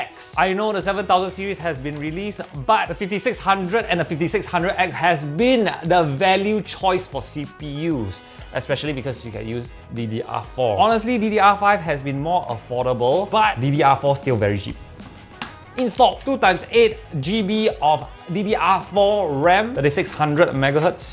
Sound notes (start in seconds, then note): 15.0 click